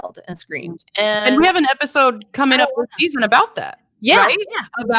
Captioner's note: speaking faintly